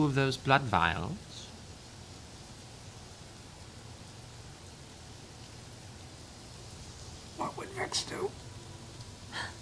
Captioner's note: whispering